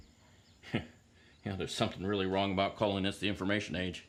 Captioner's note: chuckles